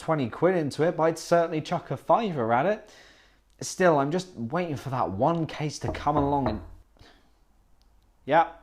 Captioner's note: door knocking